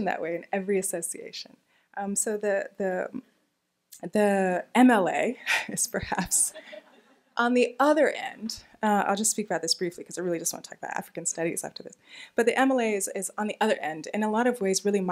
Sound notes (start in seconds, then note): 6.3 laughing